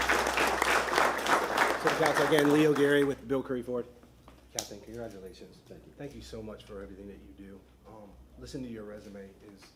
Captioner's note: applause